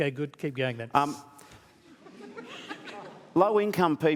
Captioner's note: laughter